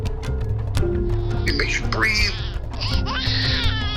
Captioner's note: wailing